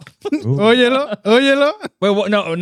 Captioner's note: speaking Spanish